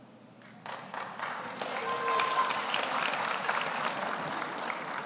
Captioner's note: audience applauds